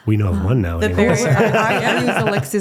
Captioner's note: laughing